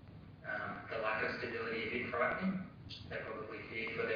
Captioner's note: audio distorts